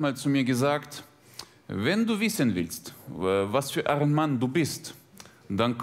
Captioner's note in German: russischer Akzent